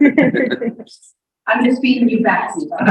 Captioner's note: people laughing